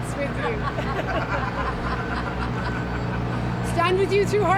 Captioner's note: guests laughing